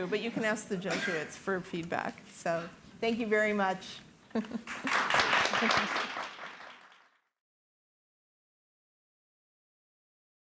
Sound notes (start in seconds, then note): 4.3 chuckling; 4.6 audience applauding